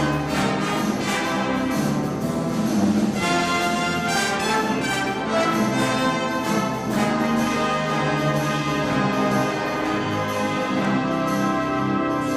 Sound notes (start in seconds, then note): 4.1 applause